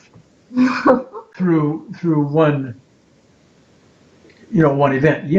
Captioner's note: giggling